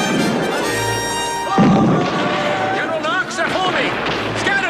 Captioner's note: Aplausos